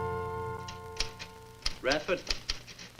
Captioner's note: typewriter clacks